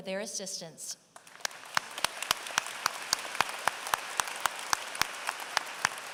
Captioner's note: applause